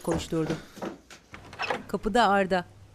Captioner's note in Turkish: Kapı açma sesi